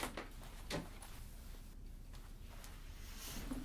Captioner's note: door clicking